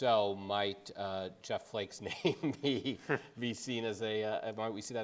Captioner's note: laughing